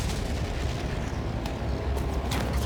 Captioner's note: explosions